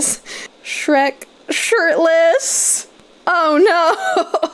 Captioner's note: hollering